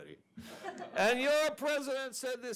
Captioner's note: audience laughs